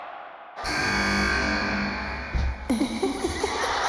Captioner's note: buzzer buzzing